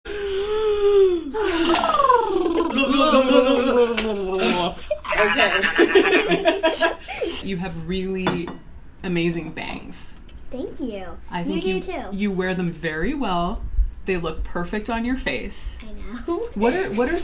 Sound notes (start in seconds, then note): 0.1 dramatically inhales and exhales; 3.0 make silly sounds; 5.2 make silly eating sounds; 6.2 laughs; 16.2 laughs